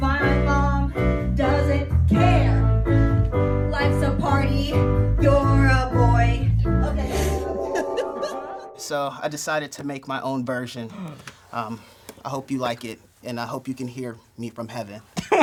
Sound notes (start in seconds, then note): 7.2 crowd laughing